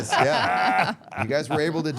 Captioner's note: all laughing